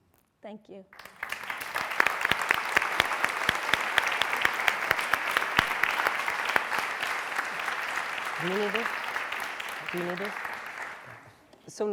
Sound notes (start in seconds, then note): 2.5 applause